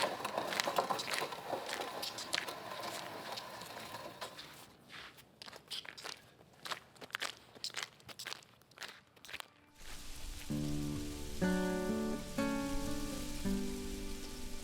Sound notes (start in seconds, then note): 5.0 footsteps continue shuffling; 11.9 light music